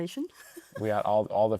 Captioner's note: laughs